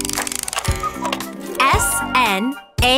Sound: cuckoo clock

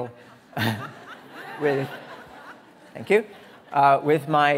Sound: audience laughing

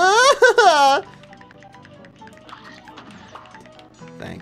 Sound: pained moans

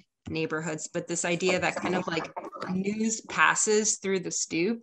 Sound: audio echo

